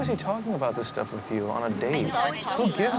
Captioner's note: overlapping chatter